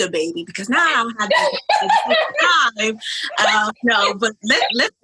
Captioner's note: laughs